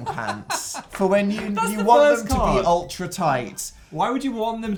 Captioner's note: laughing